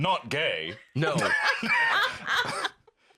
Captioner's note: others laughing